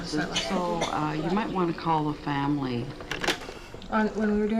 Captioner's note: tape Player Clicks Off